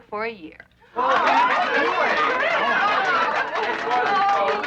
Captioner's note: cheering